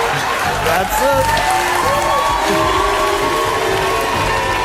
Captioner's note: audience boos; theme music